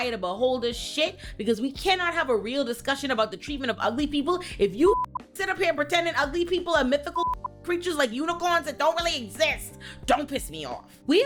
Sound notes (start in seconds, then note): 4.9 beep; 7.2 beep